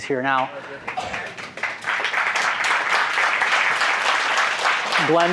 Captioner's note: applause